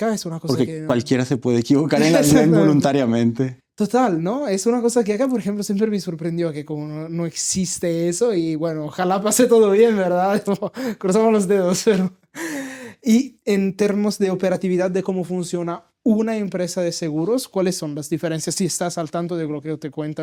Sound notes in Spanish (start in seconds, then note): 12.5 risas